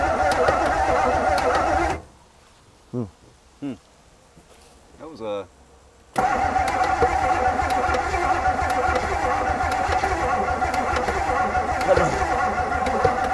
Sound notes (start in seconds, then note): 0.0 vehicle engine clicking; 0.0 vehicle engine humming; 2.0 vehicle engine stops; 6.1 vehicle engine clicking; 6.1 vehicle engine humming